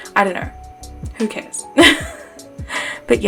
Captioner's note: laughs